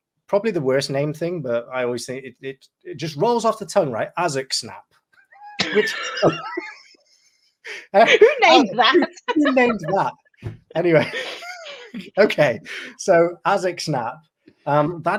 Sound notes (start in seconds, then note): 5.4 laughing